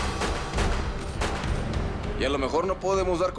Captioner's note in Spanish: Disparos